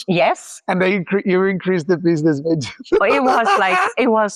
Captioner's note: laughs